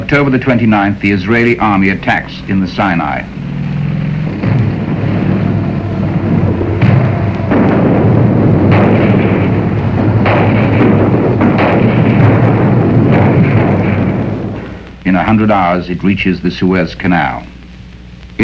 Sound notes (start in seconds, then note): 9.1 guns firing